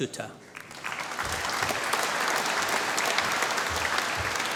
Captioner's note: applause